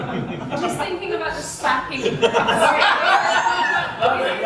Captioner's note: laughter